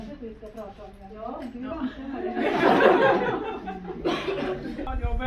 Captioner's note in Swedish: Skratt